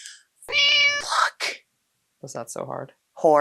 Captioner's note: meow